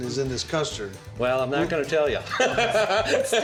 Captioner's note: laughing